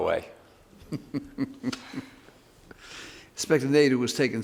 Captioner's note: man laughs